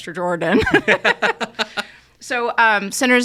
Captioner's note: all laughing